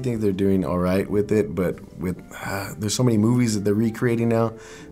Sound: sighs

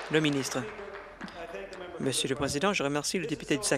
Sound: applause

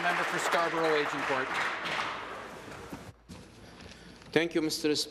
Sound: applause

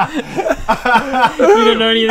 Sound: unsympathetic laughter

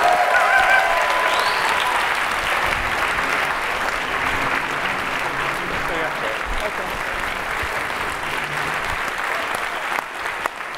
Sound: applause

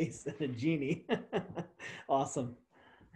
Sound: laughs

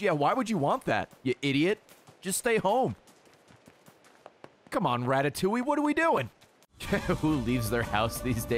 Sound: laughs

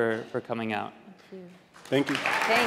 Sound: applause

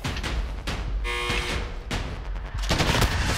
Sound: buzz; gunshots

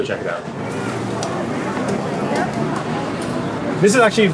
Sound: crowd chattering

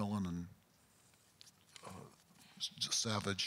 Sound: pause

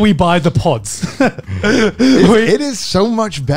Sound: laughing

